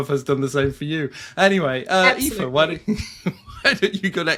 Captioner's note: laughs